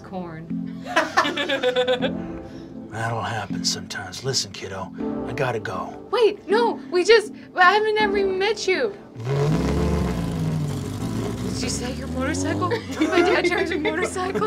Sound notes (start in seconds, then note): 0.9 laughing; 9.1 grumbling motorcycle